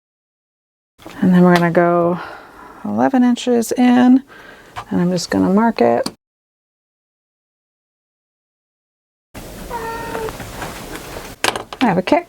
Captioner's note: meow